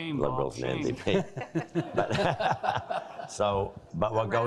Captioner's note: all laughing